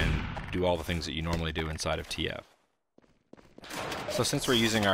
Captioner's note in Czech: herní zvuky